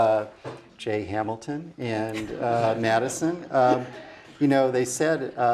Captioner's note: laugh